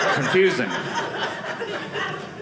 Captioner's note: audience laughing